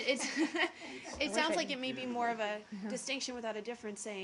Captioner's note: laughter